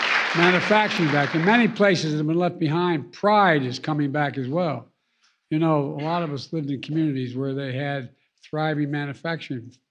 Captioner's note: applause